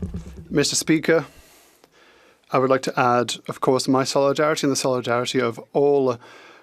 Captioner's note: applause